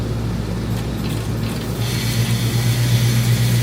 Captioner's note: machine Running